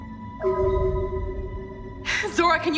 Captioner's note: frequency echoes